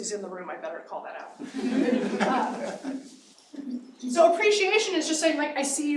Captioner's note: laughter